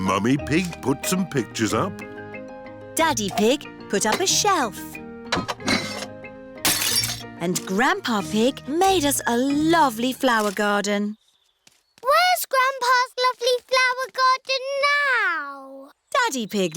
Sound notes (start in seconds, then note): 6.6 shattering